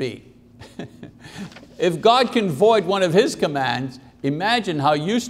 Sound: chuckles

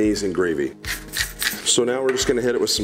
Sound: grinds pepper

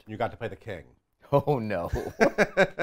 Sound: laughs

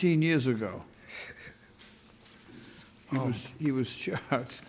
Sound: snickers

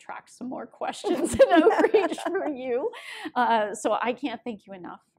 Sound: laughter

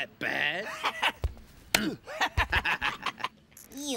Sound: both laughing

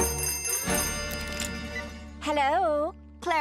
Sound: phone rings

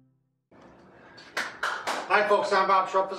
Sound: applause

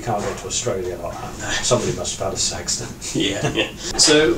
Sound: laughs

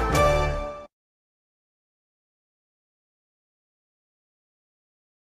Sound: upbeat orchestral music; silence

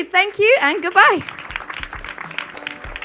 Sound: audience clapping; upbeat music

